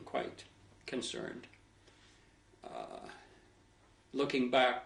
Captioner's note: pauses for 3 seconds